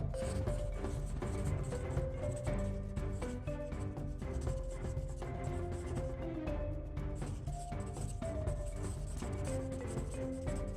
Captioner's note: scribble sounds